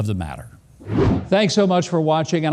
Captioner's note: wind whooshing